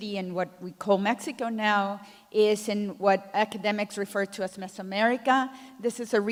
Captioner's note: none